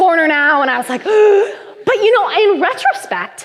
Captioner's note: gasps